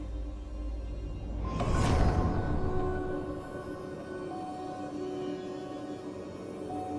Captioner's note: pensive music continues; air whooshing